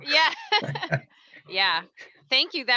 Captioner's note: laughing; laughs